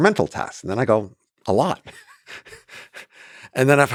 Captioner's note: chuckles